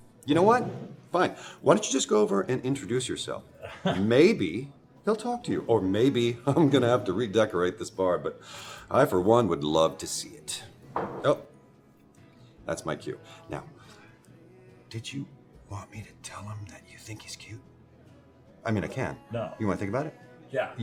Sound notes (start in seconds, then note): 10.9 glass clanks